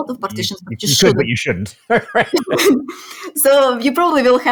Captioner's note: laughs